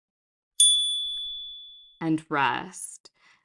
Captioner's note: chime